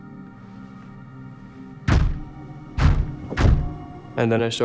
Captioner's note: loud banging sounds